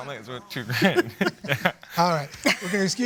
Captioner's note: laughs